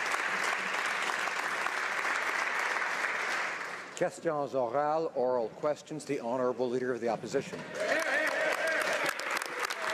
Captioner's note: some Applause